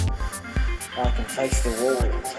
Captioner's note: spray can spraying